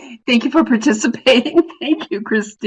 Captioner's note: laughs